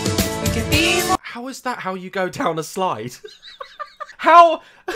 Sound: laughs

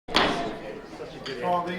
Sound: gavel bangs

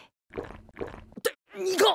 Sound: gulp gulp

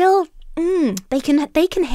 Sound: hums

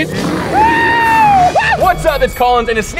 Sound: screaming

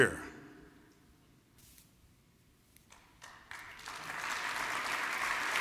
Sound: applause

